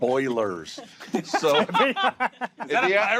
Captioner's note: laughter